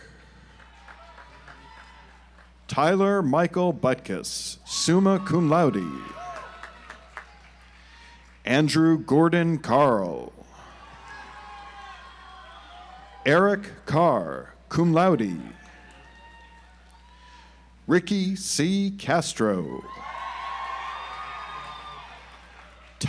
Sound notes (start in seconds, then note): 0.0 audience applauds; 5.2 audience applauds; 10.9 audience applauds; 15.6 audience applauds; 19.9 audience applauds